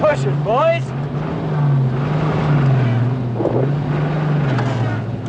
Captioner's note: engine revving